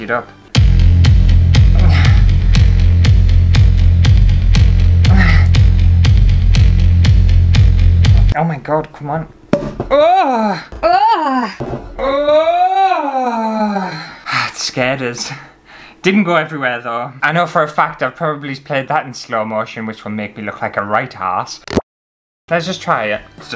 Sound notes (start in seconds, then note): 0.4 suspense Music; 9.5 pop